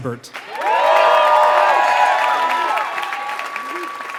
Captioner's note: applause